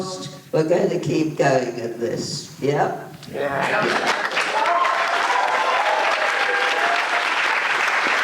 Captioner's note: applause